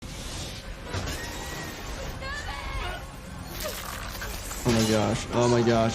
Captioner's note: glass shattering; passengers screaming